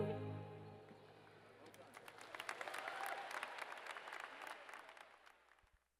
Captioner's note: applause